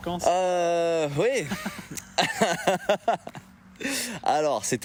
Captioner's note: laugh